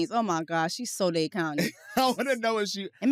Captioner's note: laughs